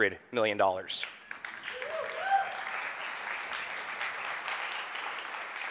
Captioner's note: audience applauding